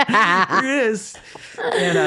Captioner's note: laughing